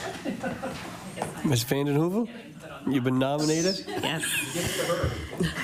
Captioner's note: laughter